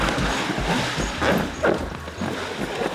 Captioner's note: splashing